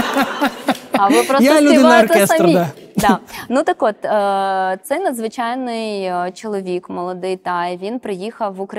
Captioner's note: applause